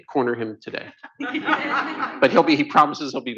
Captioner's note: laughter